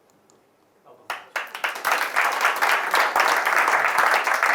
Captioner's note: audience clapping